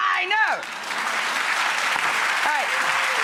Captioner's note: audience clapping